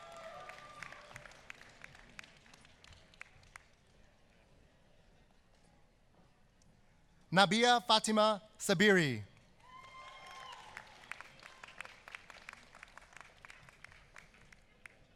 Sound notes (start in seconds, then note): 0.0 applause; 13.2 applause